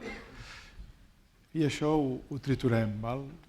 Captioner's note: speaking spanish